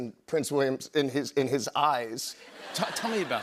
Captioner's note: laughter